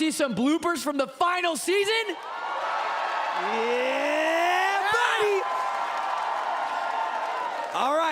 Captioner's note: cheering